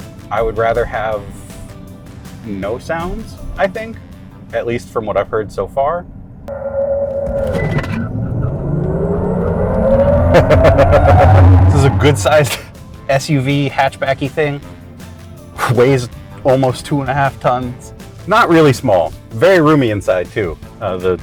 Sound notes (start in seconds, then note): 6.4 car accelerates; 10.0 driver laughs